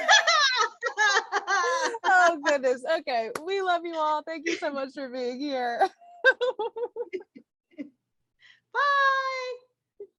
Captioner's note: laughter; laughter